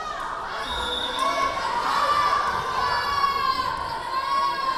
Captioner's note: whistle blowing